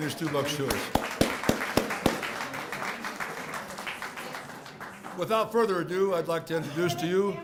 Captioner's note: applause